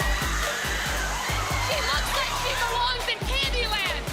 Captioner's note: screams